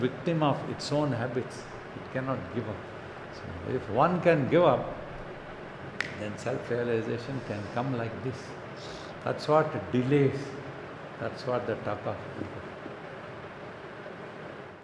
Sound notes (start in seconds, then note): 5.9 clicks fingers